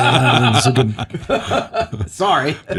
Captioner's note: laughing